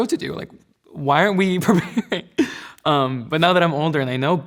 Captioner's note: laughs